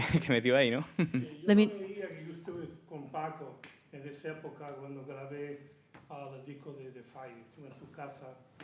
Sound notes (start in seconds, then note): 1.9 speaking in Spanish